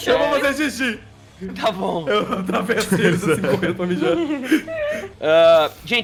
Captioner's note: speaks laughing